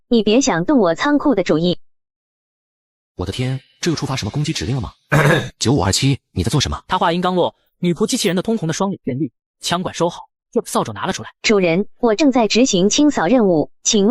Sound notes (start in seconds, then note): 5.1 cough cough